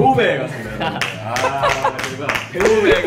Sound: claps

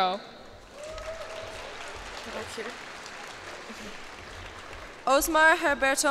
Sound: cheers and applause

